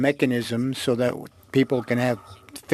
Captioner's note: speaking FRENCH